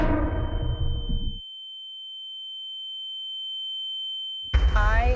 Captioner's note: echoes; ominous musical score; high pitched tone; urgent music